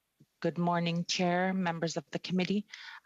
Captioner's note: speaking Alternate Language